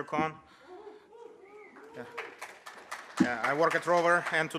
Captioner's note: audience cheers